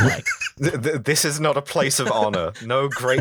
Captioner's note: laughter